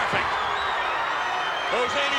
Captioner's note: applause